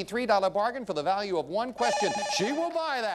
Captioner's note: bell rings